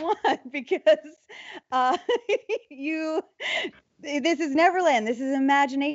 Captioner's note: laughs